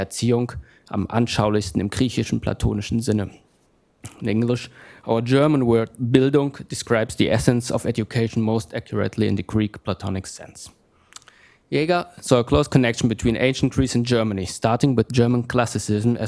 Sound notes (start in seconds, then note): 5.8 german